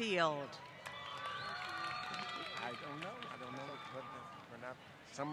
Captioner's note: applause